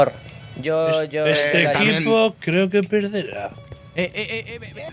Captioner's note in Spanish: voz falsa